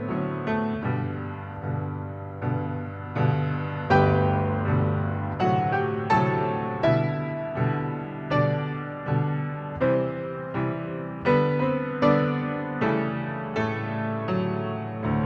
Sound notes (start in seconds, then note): none